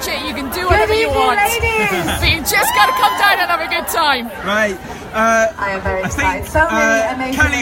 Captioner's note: crowd cheering